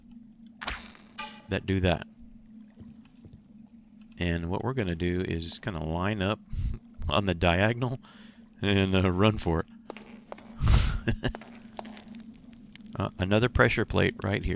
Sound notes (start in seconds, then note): 7.8 chuckles; 10.5 laughs